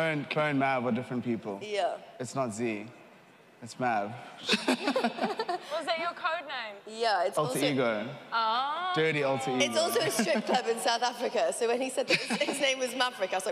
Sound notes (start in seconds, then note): 4.4 laughing